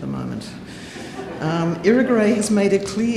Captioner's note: audience laughing